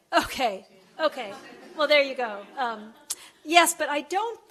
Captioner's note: laughter